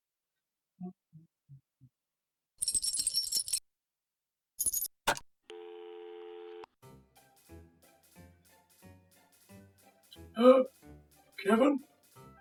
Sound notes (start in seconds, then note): 1.1 humming; 2.6 loose change jingles; 5.5 dial tone